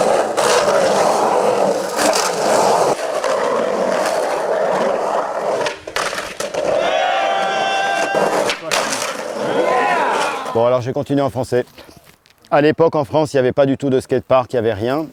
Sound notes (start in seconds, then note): 0.1 skateboard wheels whirring; 6.6 cheering; 11.0 speaking in foreign language